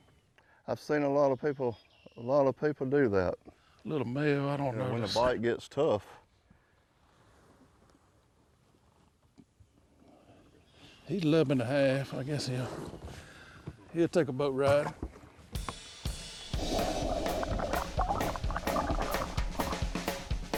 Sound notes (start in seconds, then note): 12.1 upbeat music; 12.1 water bubbling